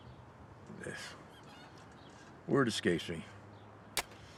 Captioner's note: sighs